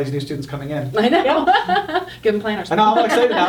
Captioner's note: all laughing